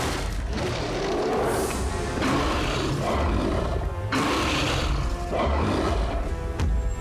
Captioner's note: roaring